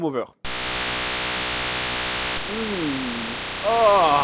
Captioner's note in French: son strident